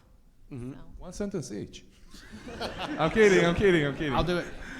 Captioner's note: audience laughs